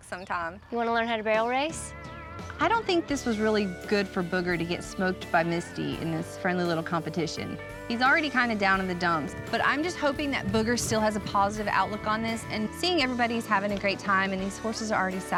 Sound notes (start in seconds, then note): none